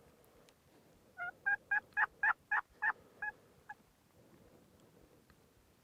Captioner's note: turkey calling continues